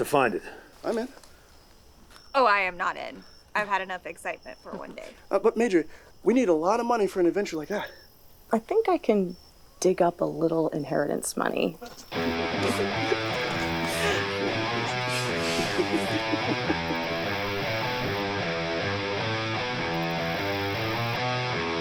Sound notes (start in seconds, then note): 12.1 heavy rock electric guitar instrumental; 12.6 laughter